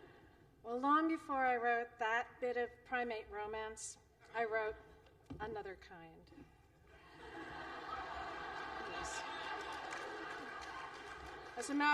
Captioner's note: laughter